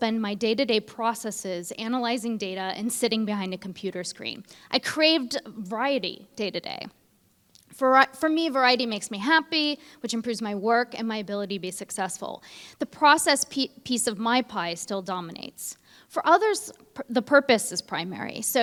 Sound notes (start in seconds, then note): none